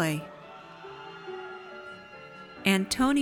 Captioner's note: audience cheers